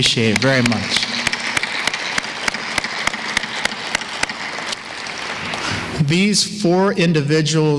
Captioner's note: applause